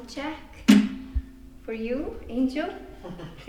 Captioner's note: laughs